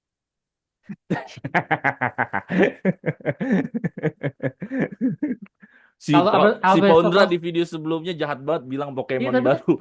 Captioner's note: laughs